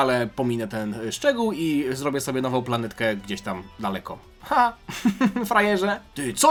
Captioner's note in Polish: śmiech